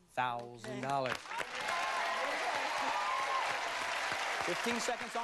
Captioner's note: crowd applauds